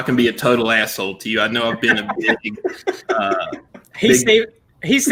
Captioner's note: laughs